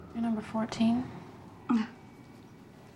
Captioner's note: sighs